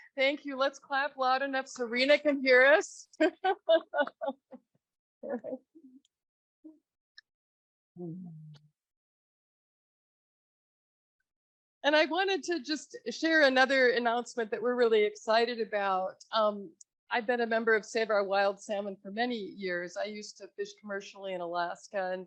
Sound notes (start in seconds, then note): 3.4 laughs